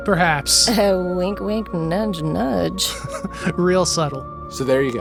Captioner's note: laughing